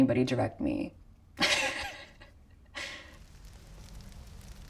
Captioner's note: laughs